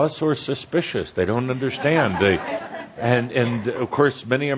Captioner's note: laughter